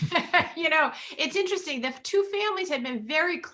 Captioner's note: laughs